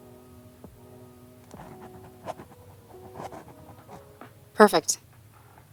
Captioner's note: writing sounds